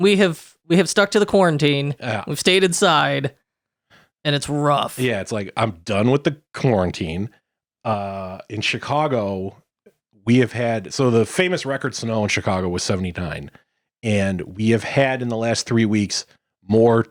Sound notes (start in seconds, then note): none